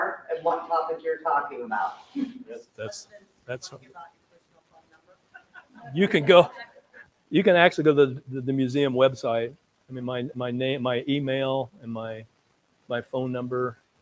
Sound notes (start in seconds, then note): 5.5 audience member laughing